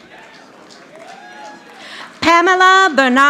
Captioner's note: audience applauding